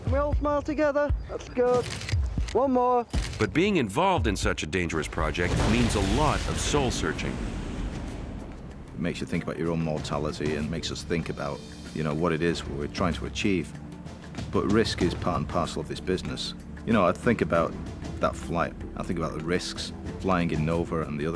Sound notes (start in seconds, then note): 1.8 camera clicking; 3.7 camera clicking; 7.6 rocket blasting